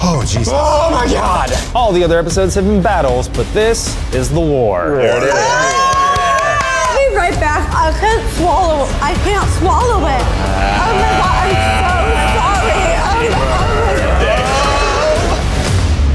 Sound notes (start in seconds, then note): 5.0 cheering; 7.1 dramatic music